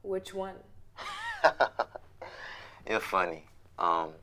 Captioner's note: chuckles